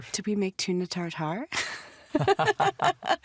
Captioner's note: both laughing